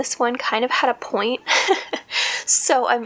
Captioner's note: laugh